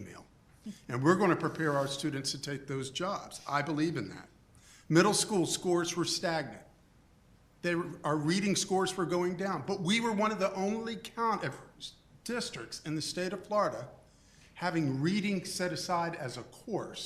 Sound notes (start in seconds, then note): none